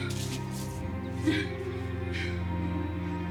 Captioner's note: panting; upbeat music